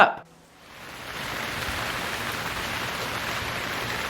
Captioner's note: rain falling